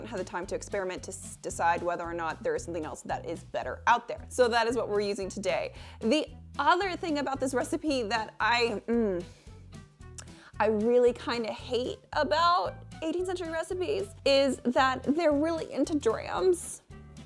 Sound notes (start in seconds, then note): 8.8 hums in frustration